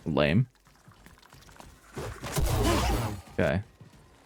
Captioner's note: gunshots